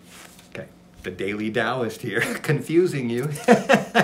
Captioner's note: laughs